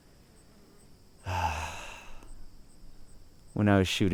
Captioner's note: sighing